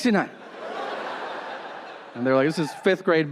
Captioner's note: audience laughing